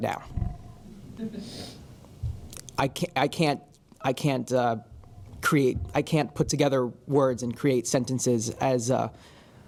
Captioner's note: laugh